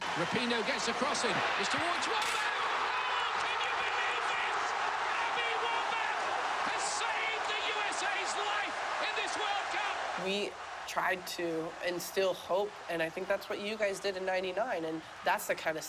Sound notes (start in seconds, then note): 0.0 cheering; 0.5 tv announcer